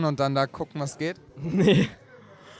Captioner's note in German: lacht